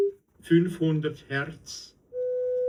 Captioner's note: voice on test record